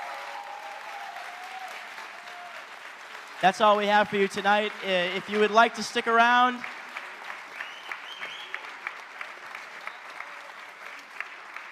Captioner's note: applause